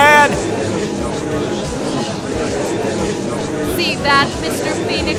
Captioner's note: gallery chattering!